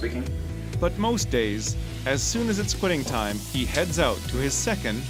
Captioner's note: voiceover